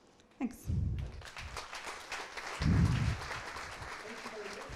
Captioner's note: applause